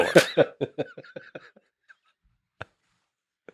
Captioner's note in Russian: Лекс смеется